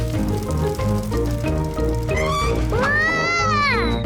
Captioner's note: tires screech